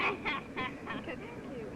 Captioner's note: girl laughing